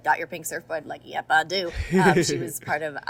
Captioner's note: Hyram laughs